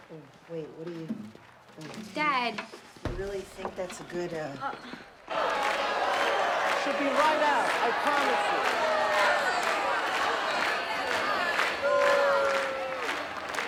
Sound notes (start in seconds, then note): 9.7 booing and clapping rhythmically